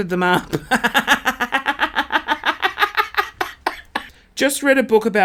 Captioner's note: laughing